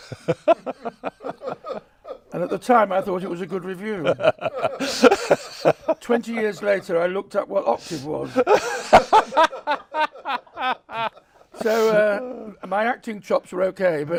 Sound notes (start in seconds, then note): 0.0 chuckles; 4.3 laughs; 7.7 laughs